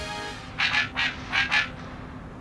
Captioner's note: robotic barking